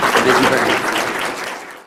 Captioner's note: applause